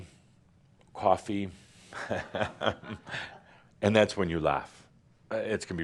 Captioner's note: chuckling